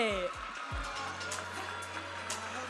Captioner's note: audience applauding and cheering